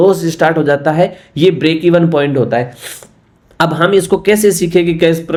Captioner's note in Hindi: नाक से की जाने वाली आवाज़